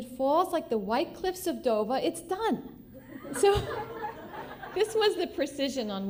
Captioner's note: laughter